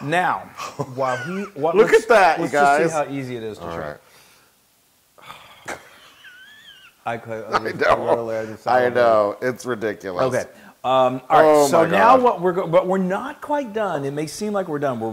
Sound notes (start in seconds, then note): 5.4 laugh